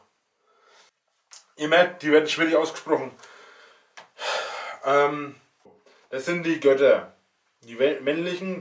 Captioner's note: sigh